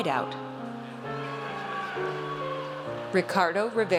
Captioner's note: audience cheers